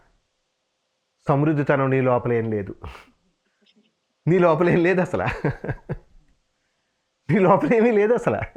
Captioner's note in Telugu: నవ్వు